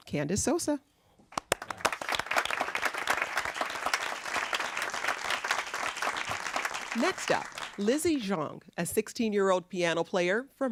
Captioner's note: applause